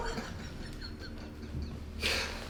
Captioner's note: laughing